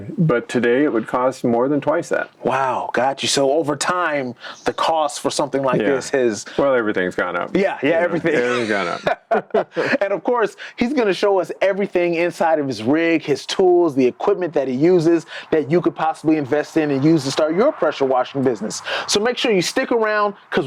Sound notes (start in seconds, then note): 8.0 laughing